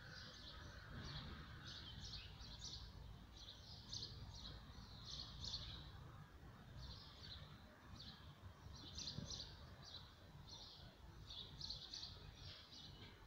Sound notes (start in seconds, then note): 8.9 birds are tweeting